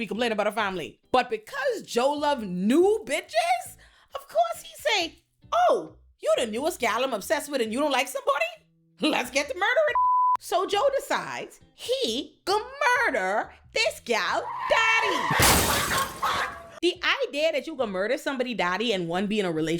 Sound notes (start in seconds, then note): 9.9 beep; 15.4 gunshot